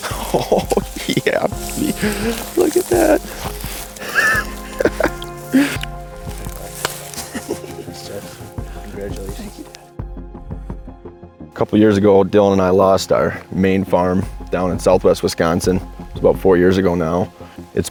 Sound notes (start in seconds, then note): 4.6 laughs; 6.9 high-fives